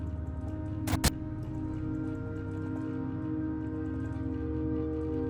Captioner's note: static crackles